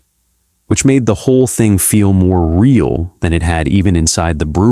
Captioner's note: speech